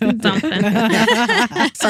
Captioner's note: laughing